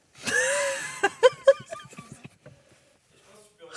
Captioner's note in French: rire